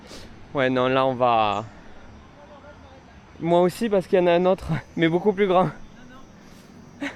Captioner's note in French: rires